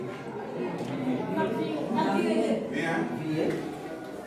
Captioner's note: children reply in French